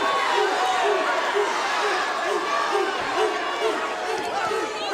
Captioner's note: audience barking